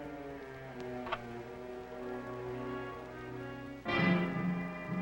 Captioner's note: suspenseful orchestral music; gun clicks